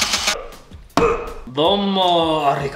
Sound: motor whirring; grunting

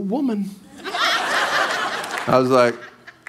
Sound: congregation laughing

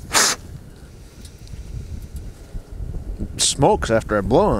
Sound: mouth blowing

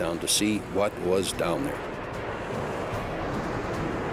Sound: jet engine noises

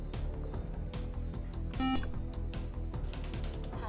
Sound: buzzer

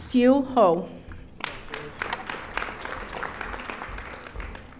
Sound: audience applauding

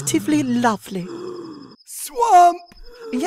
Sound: struggling to breathe

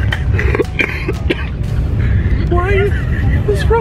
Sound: coughs

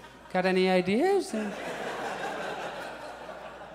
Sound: audience laughs

